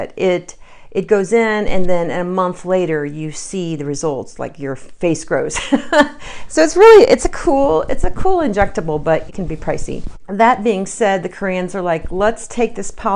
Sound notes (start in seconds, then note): 5.6 chuckles